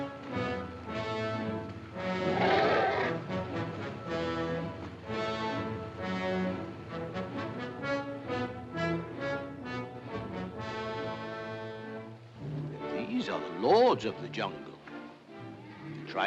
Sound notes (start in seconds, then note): 2.2 elephant growls; 4.7 dramatic music